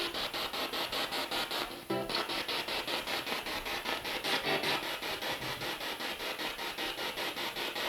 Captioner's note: sound of the Spirit Box in the background